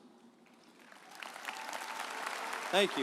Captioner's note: audience applauding